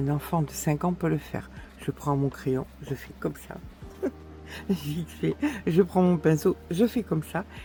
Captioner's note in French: rires